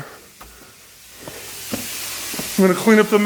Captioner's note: coolant hissing